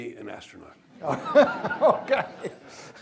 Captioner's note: laughs